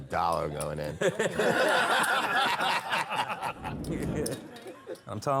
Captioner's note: laughter